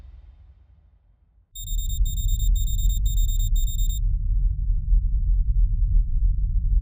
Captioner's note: beeping